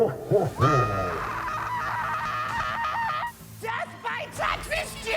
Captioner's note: monster laughing; screaming